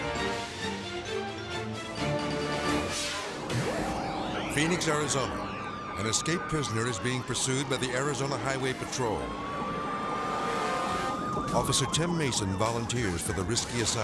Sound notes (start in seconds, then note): 0.3 thrilling music continues; 5.6 sirens wailing